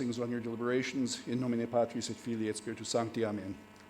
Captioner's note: speaking in foreign language